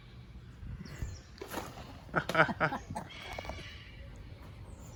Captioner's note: laughs